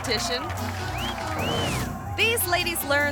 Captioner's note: spectator whistling